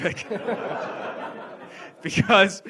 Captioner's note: audience laughs